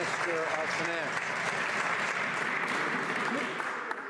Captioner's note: some Applause